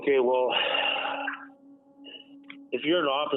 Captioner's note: sighing